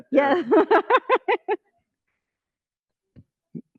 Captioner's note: laughter